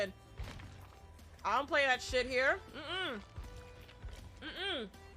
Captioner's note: hums